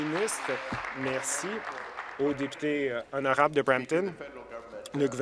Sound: applause

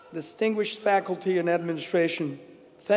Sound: none

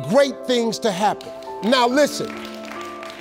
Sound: applause

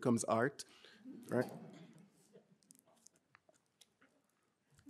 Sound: audience chuckling

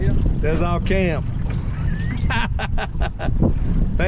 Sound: laughing

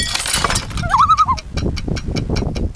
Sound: loon call

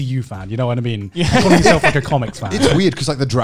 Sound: laughs

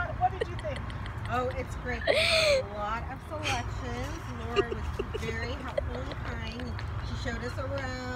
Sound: background laughter

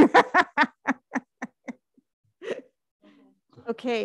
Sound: laughs

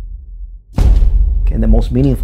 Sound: thud

